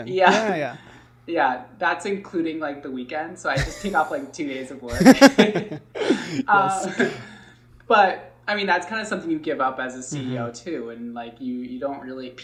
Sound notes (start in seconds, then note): 4.9 laughing